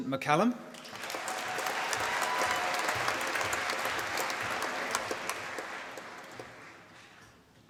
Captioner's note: applause